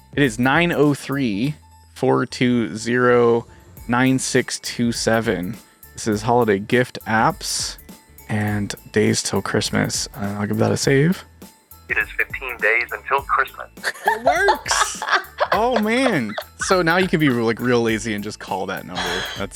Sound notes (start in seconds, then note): 11.9 computer Voice; 13.8 laughs